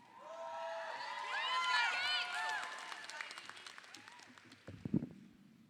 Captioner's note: audience applauding